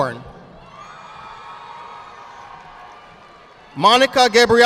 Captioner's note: audience applauding